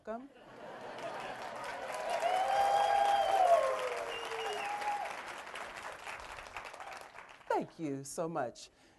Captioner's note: applause